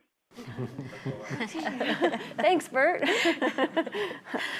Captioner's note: audience laughing